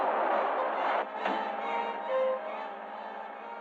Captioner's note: thud